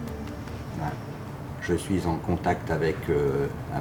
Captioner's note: speaking French